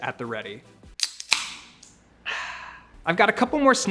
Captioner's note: can popping